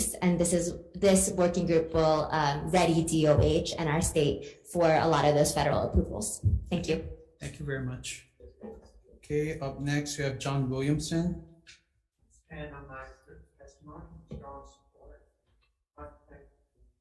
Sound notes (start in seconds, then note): 13.3 faintly speaking